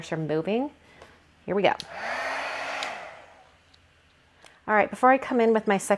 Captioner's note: heat tool whirs